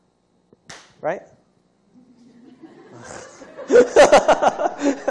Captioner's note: laughter